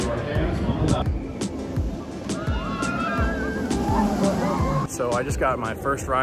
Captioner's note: screams